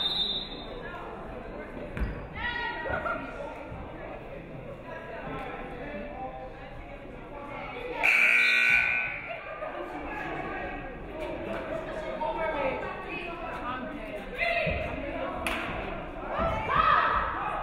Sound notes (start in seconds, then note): 0.0 referee whistles; 8.0 buzzer buzzes